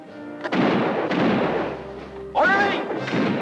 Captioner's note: guns fire